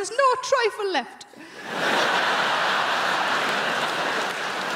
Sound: crowd laughing

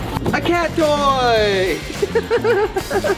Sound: laughs

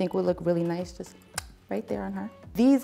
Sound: clicks

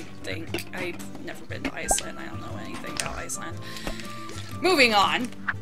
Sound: breath

